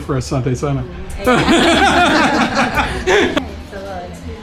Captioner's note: laughter